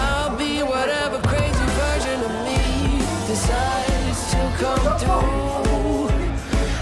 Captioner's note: laughs